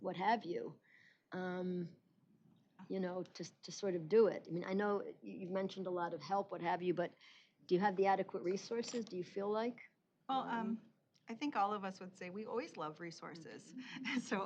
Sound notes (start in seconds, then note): none